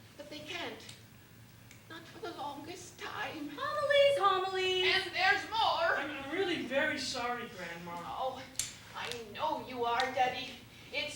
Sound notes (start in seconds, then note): none